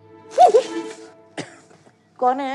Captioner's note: Startles; Coughs